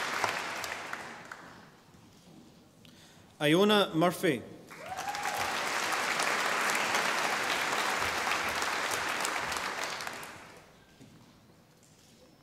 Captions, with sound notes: Iona Murphy. (audience applauding)